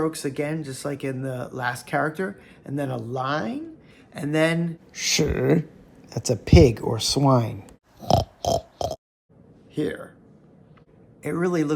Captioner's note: oink